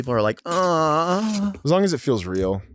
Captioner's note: Delta moans